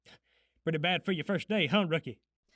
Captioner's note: none